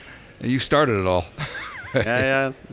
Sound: interviewer laughing

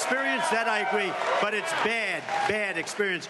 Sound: applause

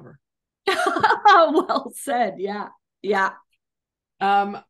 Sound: laughs

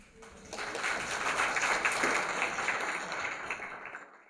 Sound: applause

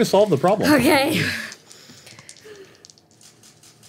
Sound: dice rolling

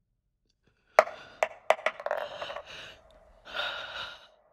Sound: dice rolling

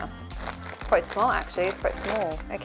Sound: plastic crinkling

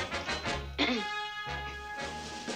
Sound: clears throat

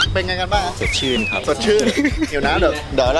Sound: laughs

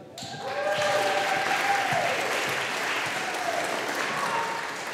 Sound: audience applauding

